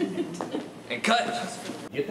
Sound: laughing

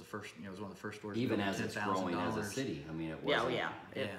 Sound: none

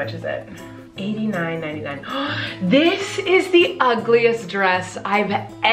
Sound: gasps

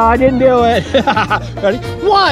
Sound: laughs loudly

